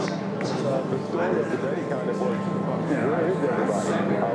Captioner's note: people chattering